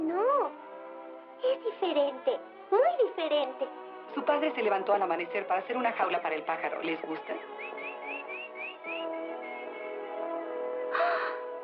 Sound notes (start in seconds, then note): 7.4 chirping